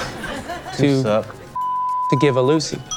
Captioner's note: beep